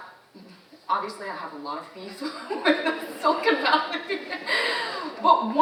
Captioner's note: laughs